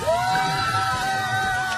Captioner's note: cheering